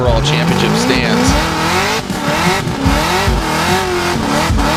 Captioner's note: engine revving